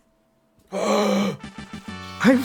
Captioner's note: gasp